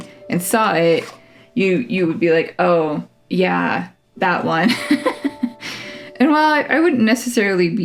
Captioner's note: laugh